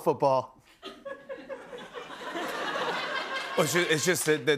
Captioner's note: laughter